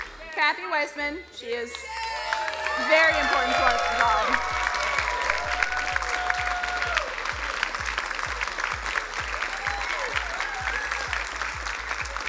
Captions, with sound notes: Kathy Weisman, she is very important part of the program. (crowd cheering and applauding)